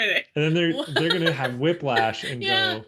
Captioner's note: laughs